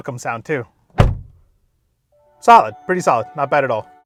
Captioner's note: door slams